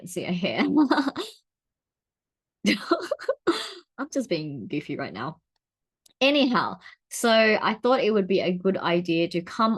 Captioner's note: chuckles